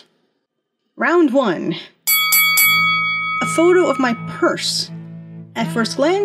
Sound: ding ding

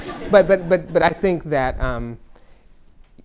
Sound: laughter

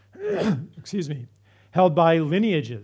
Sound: clears throat

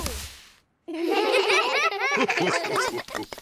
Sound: all giggle

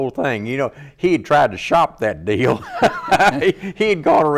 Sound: laughs

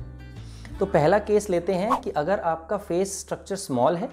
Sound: whoosh sound

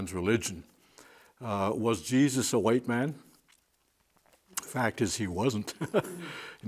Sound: he chuckles

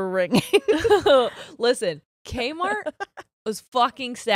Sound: both laughing

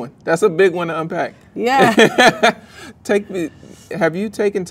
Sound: man laughs

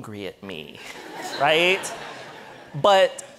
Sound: audience laughing

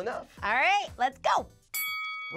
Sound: ding

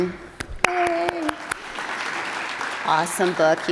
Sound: attendees applauding

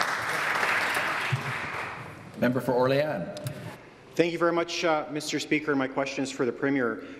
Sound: some Applause

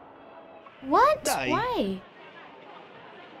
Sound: director speaking Italian

